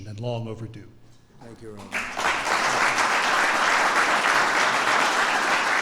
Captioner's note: applause